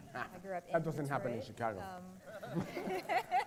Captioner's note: laughter